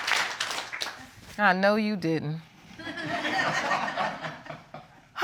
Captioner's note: audience laughing